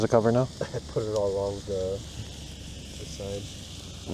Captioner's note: chuckles